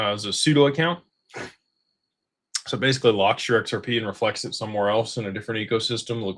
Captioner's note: snorts